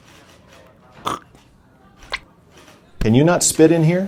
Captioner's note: ted cruz spits